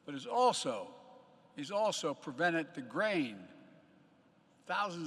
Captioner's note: none